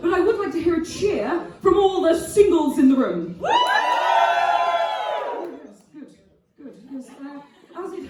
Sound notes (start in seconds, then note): 3.5 audience cheering